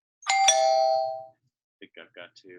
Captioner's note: doorbell ringing